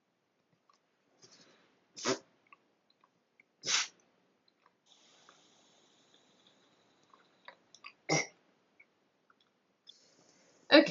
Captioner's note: spitting noises